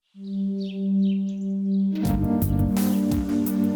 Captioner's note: suspenseful music; birds chirping